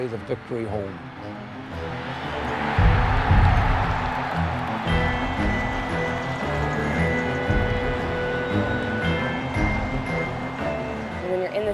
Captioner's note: cheering